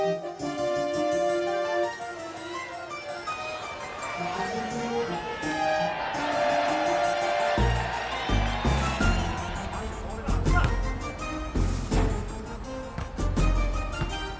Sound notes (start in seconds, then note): 2.4 stadium cheers; 9.6 basketball chatter